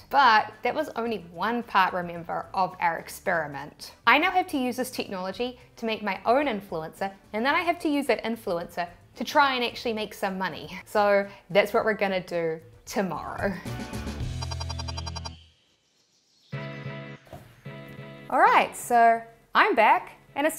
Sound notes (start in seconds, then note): 13.2 upbeat music; 14.3 digital tones beeping; 15.7 birds chirping; 16.6 lively music